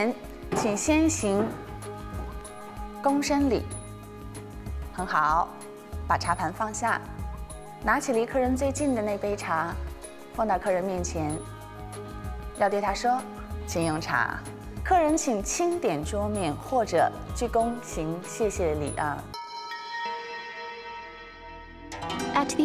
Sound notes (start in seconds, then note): 0.1 speaking Chinese